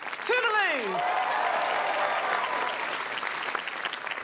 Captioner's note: cheering, applause